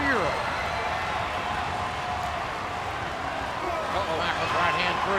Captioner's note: audience cheering